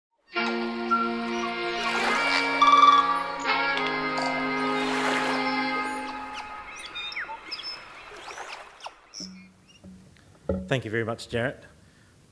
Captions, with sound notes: (inquisitive tribal music) (bird chirping) (waves crashing) - Thank you very much, Jarrett.